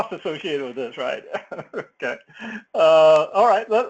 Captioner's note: laugh